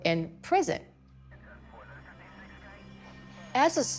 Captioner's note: police radio running